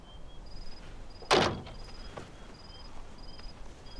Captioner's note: door clunks